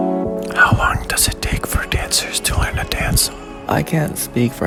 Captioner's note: loud whispers